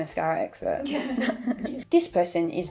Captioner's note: background laughter